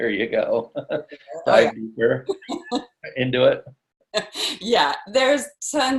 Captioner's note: laughs